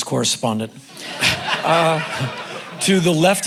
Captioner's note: crowd laughing